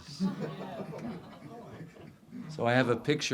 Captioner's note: audience laughs